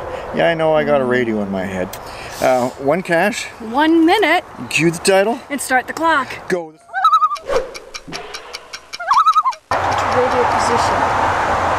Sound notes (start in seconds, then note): 6.8 loon call